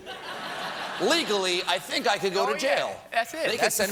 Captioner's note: laughter